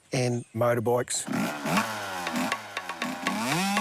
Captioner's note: motorbike engine revs